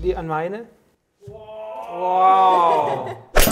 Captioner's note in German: Lachen